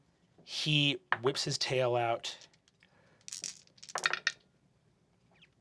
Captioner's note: dice clattering